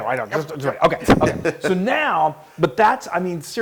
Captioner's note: laugh